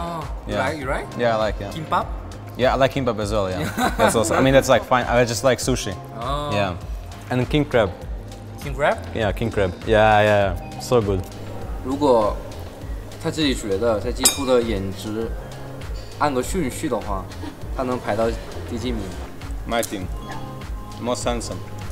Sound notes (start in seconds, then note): 3.6 laughs